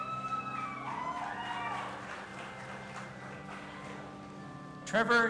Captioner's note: audience applauding and cheering